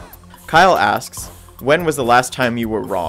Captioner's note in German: Voice-over